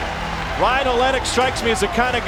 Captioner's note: voiceover